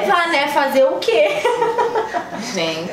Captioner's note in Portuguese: risos